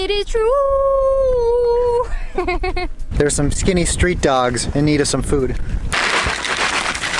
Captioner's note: laughter